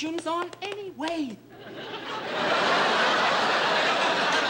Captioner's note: laughter